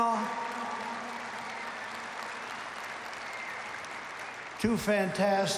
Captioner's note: applause